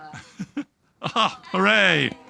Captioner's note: laughing